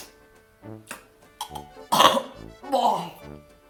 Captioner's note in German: würgt